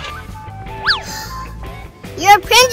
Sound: sighs

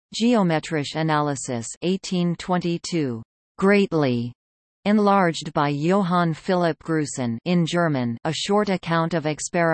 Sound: in German

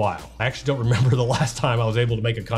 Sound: chuckles

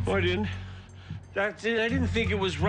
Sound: panting; continues laughing

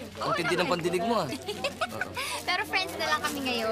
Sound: giggles

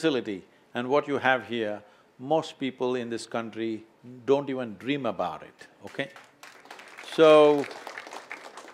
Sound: applause

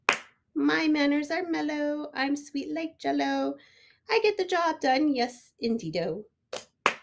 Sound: clap clap

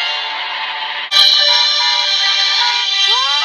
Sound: horn honking

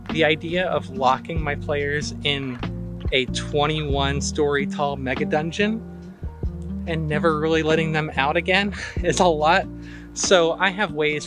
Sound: chuckles

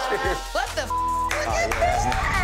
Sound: beep; person clapping

